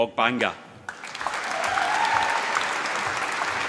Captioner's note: applause